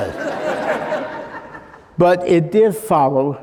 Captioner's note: laughing